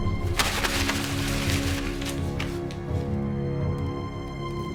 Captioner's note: paper scrunching